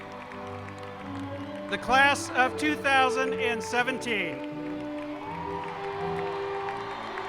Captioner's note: cheers and applause